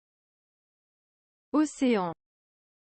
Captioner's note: French